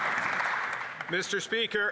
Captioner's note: some Applause